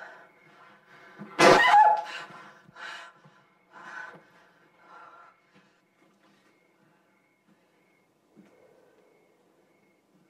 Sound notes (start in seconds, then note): 1.4 shrieks; 1.4 slams